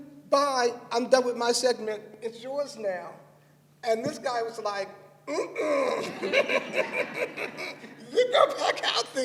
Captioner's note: laughter